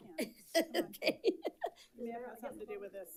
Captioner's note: chuckles